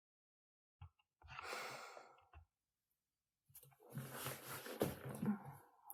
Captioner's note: shuffling